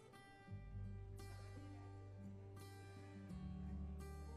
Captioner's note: none